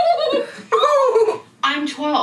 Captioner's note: laughing; squelching; high pitched squelching